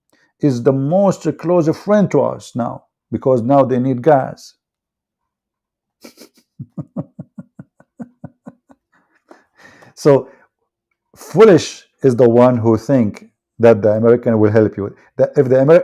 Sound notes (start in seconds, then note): 6.0 Ketawa